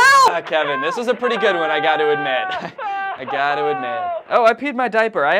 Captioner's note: "Help!" continues through phone